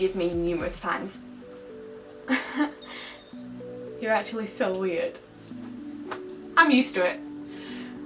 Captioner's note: laughs